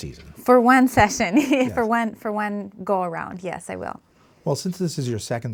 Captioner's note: laughing